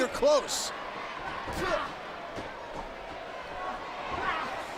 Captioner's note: crowd murmuring